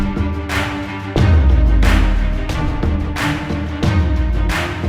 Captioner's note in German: Beifall